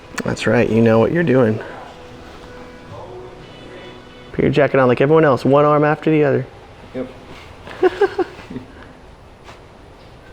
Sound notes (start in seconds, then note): 7.6 laughs